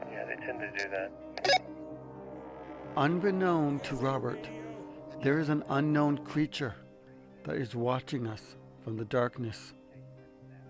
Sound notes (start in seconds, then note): 0.3 participant on radio; 1.4 radio chirps